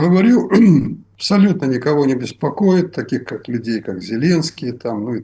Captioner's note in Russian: откашливается